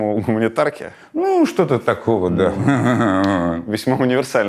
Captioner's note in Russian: смеётся